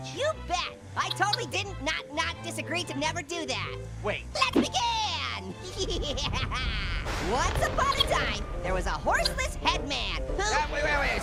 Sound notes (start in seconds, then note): 5.6 Orange laughs